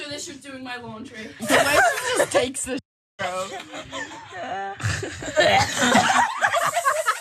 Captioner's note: cough; laugh